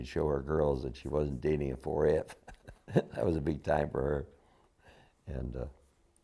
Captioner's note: laughter